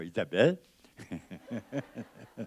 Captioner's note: laughs